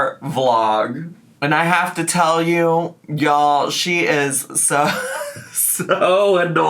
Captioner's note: laughs